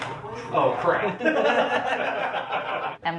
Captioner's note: laughter